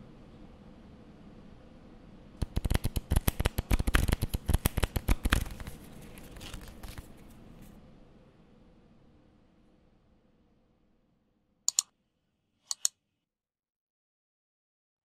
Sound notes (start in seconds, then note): 2.4 cards shuffling; 12.7 mouse clicking